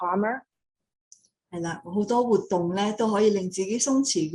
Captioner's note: speaking in foreign language; non-english speech